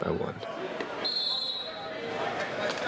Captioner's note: referee's whistle